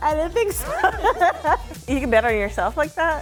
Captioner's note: people laughing